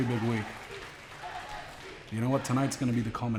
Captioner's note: crowd cheering